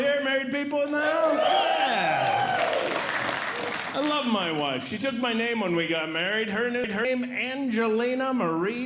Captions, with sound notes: Married people in the house? [Audience Cheering] I love my wife. She took my name when we got married. Her new name— Angelina Marie